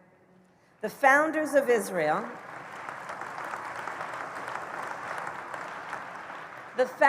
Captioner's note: applause